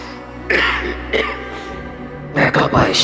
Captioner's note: coughing